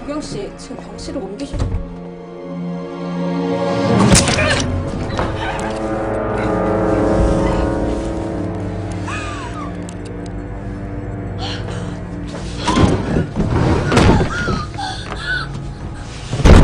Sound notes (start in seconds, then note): 0.1 foreign language; 2.5 suspenseful music; 4.0 syringe clacking; 4.0 woman grunting; 11.5 patient yelping; 12.6 door opening; 16.4 door clunking